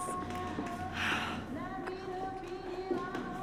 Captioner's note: quietly